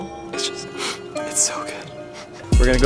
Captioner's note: fake crying